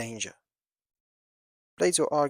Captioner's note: pause